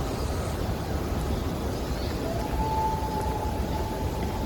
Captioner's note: loons and other birds calling